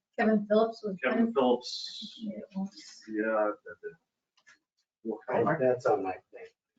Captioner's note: speaking distantly